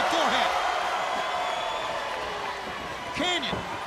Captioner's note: crowd cheering